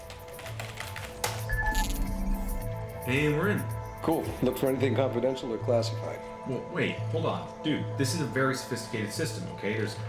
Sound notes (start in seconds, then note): 1.0 hard keystroke; 1.5 access chime